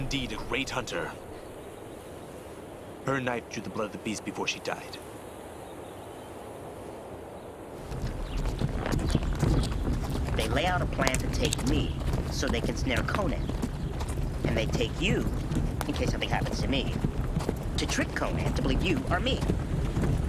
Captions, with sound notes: - She was indeed a great hunter. Her knife drew the blood of the beast before she died. (wagon moving) - They lay out a plan to take me so they can snare Conan. And they take you in case something happens to me, to trick Conan to believe you are me.